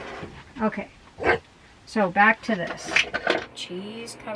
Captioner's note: bark